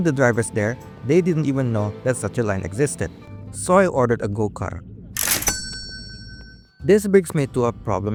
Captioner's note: money sound